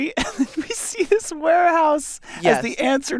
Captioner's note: laughs